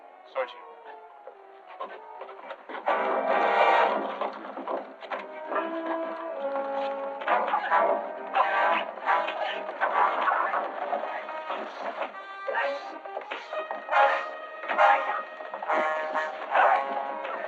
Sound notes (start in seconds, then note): 2.8 tense music; 7.1 grunting